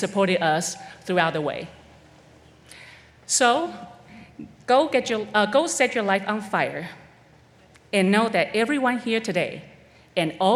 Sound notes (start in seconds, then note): none